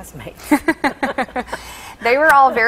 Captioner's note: laughter